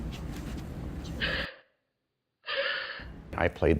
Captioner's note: crying